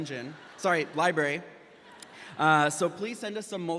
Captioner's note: graduates laughing